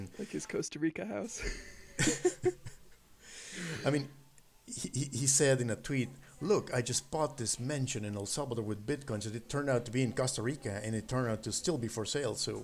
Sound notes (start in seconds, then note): 1.4 laughing